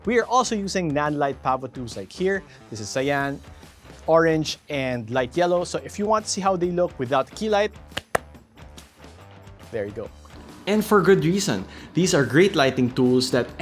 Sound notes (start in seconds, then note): 7.9 claps